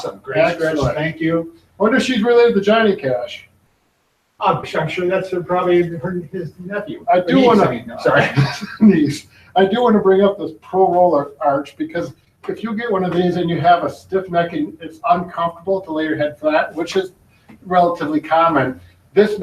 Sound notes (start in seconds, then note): 8.5 laughs